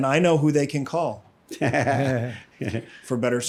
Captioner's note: laughs